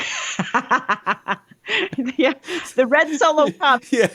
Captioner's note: laughing